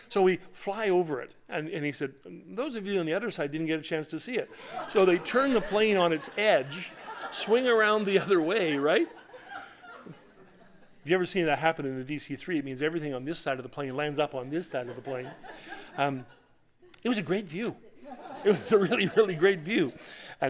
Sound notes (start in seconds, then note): 4.5 laughter; 17.8 laughter